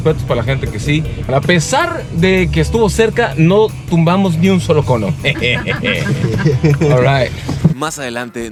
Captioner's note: laughter